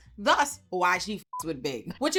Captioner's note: beep